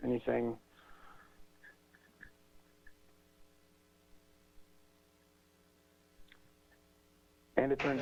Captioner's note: pause